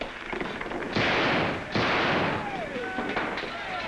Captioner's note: gunshots